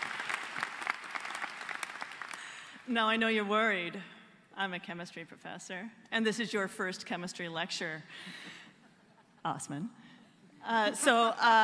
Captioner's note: applause